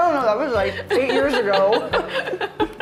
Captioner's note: laughing